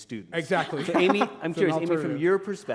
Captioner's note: chuckle